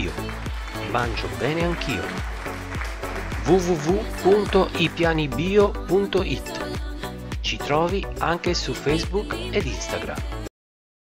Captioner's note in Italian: Applauso